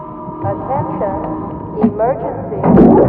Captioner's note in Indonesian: Suara Komputer